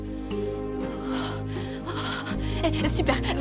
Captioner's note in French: halètements